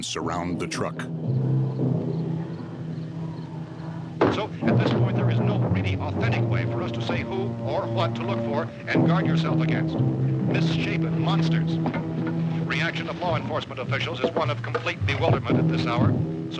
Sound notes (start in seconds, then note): 0.2 foreboding music; 4.3 radio